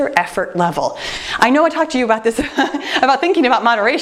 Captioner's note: chuckling